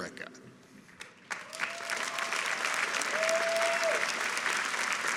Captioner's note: people clapping